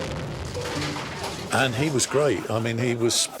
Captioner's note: explosion